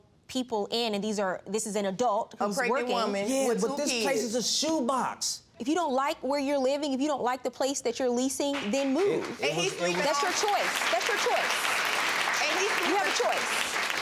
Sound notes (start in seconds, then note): 8.5 audience clapping